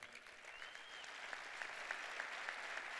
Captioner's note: cheers and applause